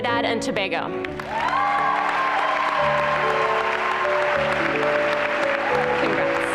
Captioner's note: applause and cheering